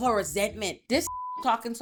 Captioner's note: beep